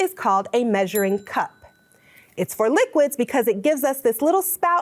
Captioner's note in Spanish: tintinea la campana